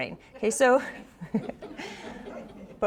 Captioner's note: all laugh